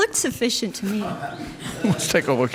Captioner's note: audience laughs